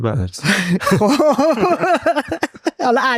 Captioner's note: laughs